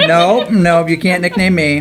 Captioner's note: laughing